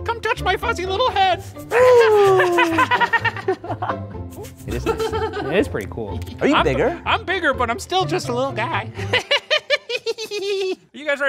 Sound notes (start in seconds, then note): 1.8 soft jaunty music; 2.0 Professor giggles; 3.6 laughs; 9.0 Professor giggles